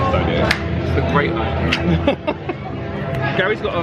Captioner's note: laughs